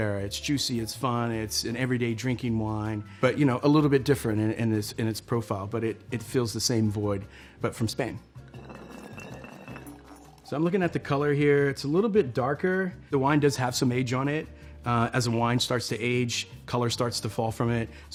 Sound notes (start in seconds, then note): 8.4 bottle rolls; 8.4 wine pours